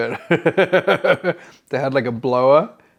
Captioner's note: laughs